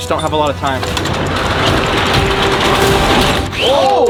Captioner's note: intriguing dramatic music; shutter clacking